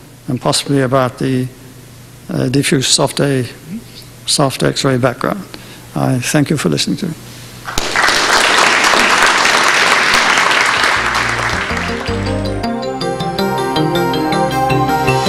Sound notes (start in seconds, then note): 7.7 audience applauding; 10.9 melodic synthesizer music